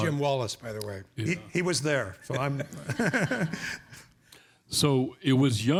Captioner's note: laughs